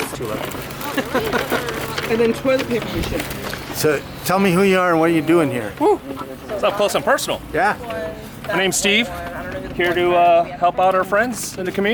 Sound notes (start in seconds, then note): 0.9 laughs